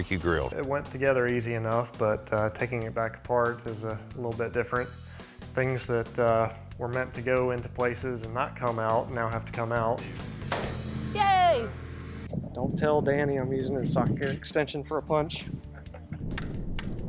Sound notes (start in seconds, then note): 10.4 thuds; 15.6 chuckles